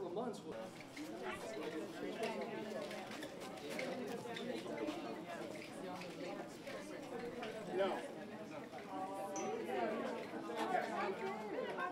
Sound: crowd noises

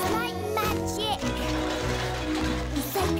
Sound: clanging

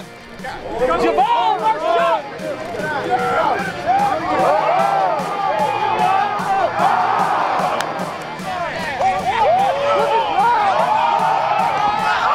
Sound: crowd noise

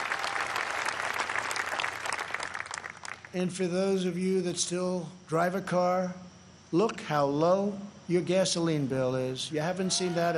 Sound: applause

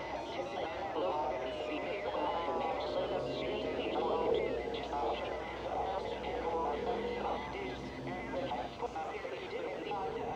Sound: static and distorted, otherworldly sounds

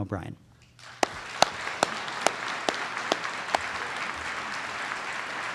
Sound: audience applauds

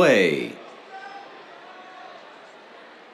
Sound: cheers

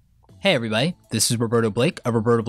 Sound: voiceover

